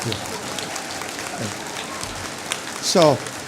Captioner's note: applause